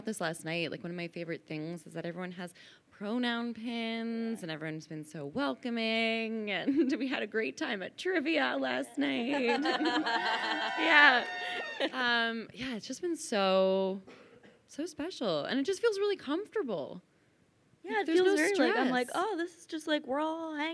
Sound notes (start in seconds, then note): 6.0 chuckles; 9.0 laughing; 9.4 crowd cheers